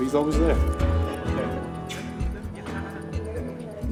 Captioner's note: mixed chatter